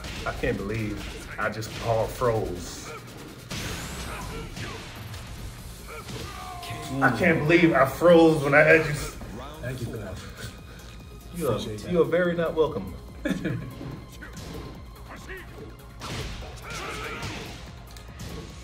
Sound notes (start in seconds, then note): 13.1 laugh